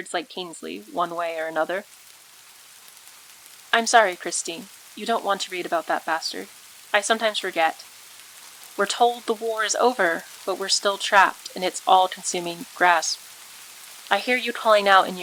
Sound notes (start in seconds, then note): 3.7 rain again